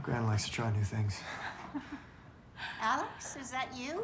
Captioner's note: chuckling